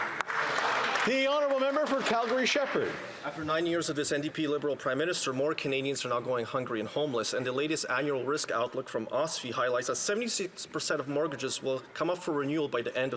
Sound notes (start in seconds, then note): 3.7 some Applause